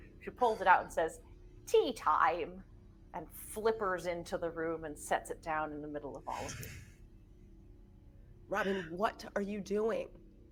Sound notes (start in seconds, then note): none